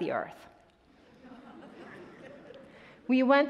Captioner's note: attendees laughing